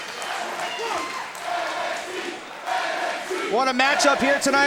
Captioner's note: crowd chanting "NXT"